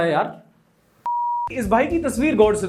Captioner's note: beep